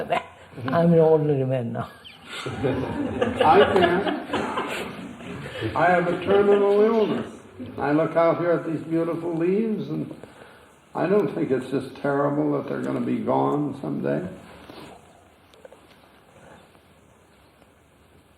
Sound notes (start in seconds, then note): 1.9 laughs; 2.0 laughter